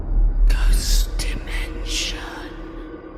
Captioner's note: ghostly Voice